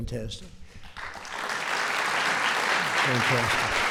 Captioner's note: applause